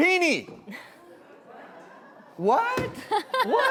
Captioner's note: audience murmurs in confusion